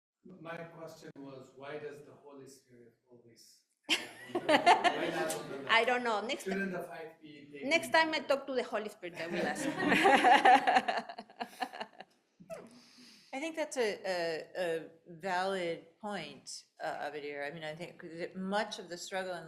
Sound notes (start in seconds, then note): 3.9 laughing; 9.1 laughing; 9.2 audience laughing